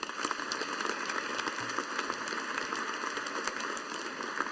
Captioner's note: audience applauding